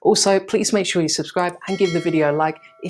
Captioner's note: bell chimes